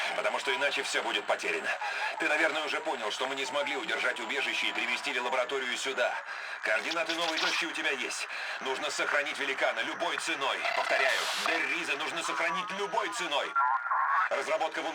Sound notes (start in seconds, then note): 10.0 static